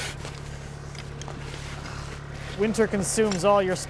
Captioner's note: skid-steer idling